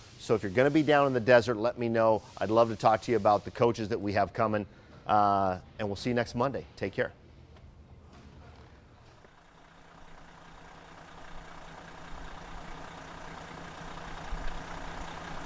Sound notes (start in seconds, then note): 9.0 engine running